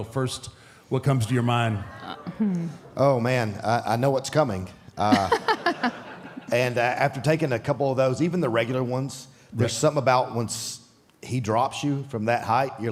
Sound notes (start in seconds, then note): 1.7 crowd oohs; 5.0 audience laughs